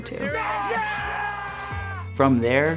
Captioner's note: students yelling